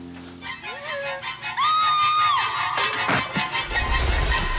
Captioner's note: screams